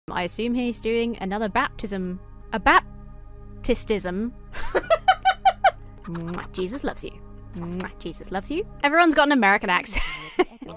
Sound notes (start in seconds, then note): 4.5 laughs; 6.1 kisses; 7.7 kisses